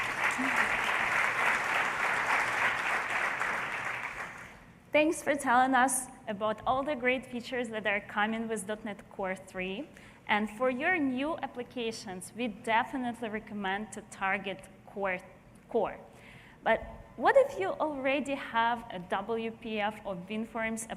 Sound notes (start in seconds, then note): 4.3 applause